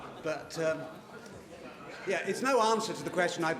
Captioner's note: laughter